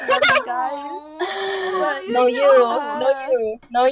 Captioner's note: inhale